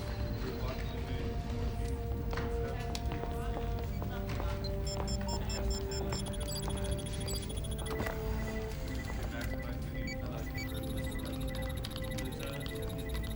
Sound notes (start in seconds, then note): 4.5 instruments beeping